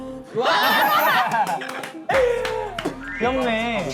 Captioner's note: clapping in joy